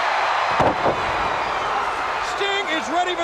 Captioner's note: crowd cheering; Ric thudding on ring